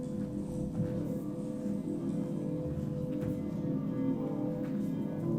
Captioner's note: footsteps tapping